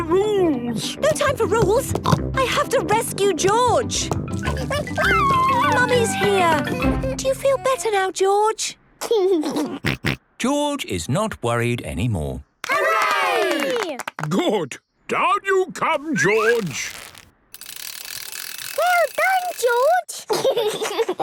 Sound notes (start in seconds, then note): 3.1 snorts; 4.5 George crying; 10.0 giggles